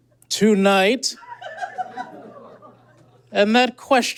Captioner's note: spectator giggles profusely